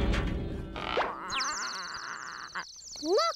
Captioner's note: squawking feebly